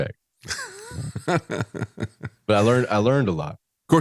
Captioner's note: laughs